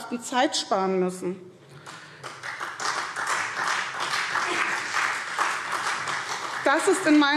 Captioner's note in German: Beifall